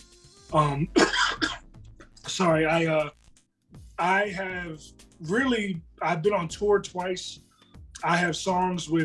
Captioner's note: cough